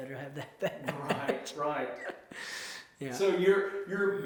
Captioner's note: laughs